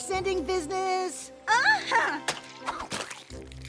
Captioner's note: splat